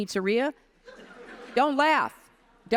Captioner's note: audience laughs